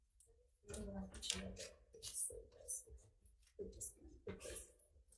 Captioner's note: staff member whispers faintly